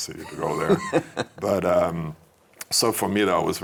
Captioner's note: laughing